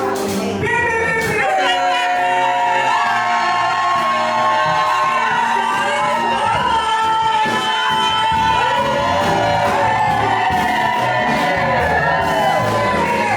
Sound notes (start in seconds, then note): 2.3 everyone cheering and shouting; 8.2 upbeat jazzy music; 8.2 people chattering